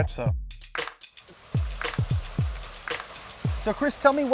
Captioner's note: water rushing; upbeat music